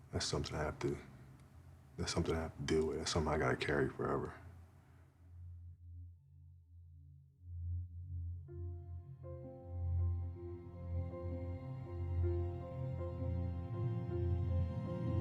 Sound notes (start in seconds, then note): none